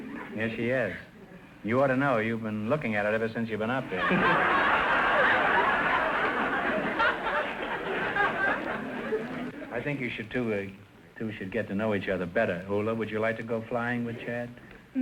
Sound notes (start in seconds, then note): 3.8 audience laughter